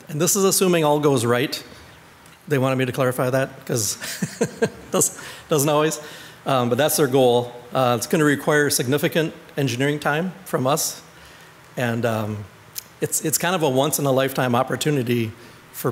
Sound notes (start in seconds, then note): 4.0 laughs